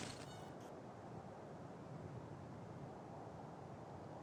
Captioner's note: light wind